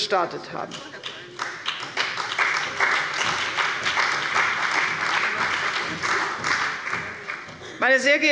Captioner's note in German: Beifall bei der CDU und dem BÜNDNIS 90/DIE GRÜNEN